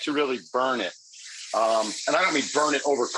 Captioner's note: grill sizzling